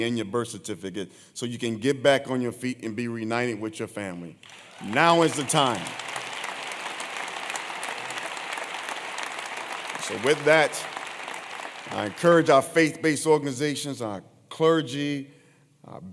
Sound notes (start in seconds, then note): 4.4 applause